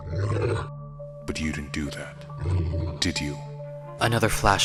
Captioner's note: growls; growls